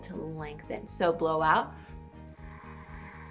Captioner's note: exhales